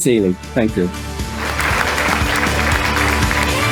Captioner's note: applause